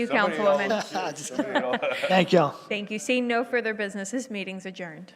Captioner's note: laughter